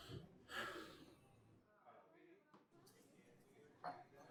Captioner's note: Alan sighs